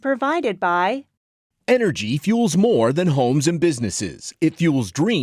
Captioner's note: voiceover